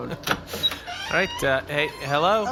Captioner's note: door opens